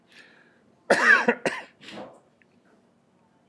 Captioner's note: coughs